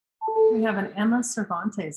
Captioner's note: computer chimes